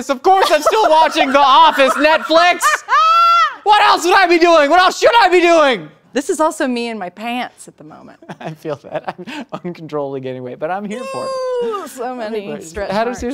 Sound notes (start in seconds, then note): 2.2 laughing; 8.5 laughs